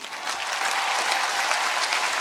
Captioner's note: applause